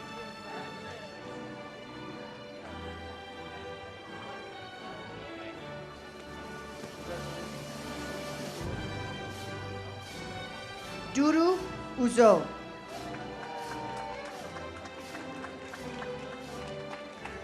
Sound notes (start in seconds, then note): 0.2 ceremonial music; 12.8 audience cheers